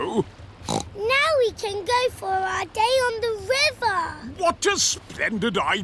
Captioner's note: snorts